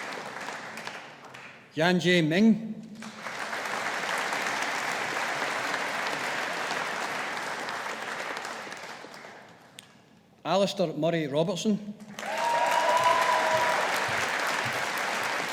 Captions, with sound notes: Yanzhe Ming. (AUDIENCE APPLAUDING) Alistair Murray Robertson. (AUDIENCE APPLAUDING)